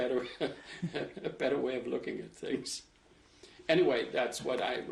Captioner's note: laughs